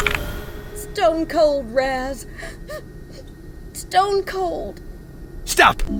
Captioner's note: she sniffles again